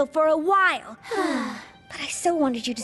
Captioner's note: sigh